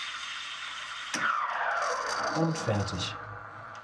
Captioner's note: hissing